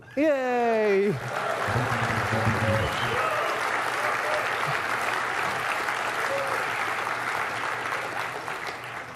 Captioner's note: applause and cheering